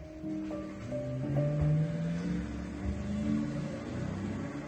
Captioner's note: engine revving